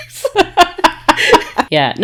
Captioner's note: laughing